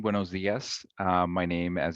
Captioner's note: speaking in Spanish